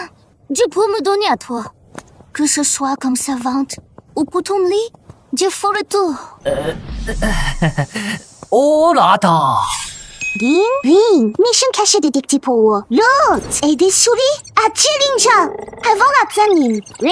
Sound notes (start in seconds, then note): 10.1 ding